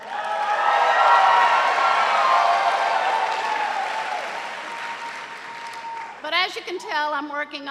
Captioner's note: cheers and applause